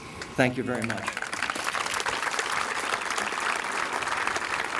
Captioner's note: applause